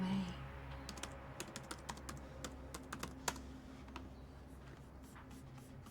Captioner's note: laptop keyboard clicking